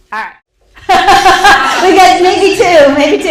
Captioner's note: laughs